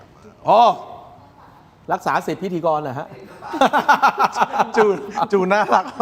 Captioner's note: laughter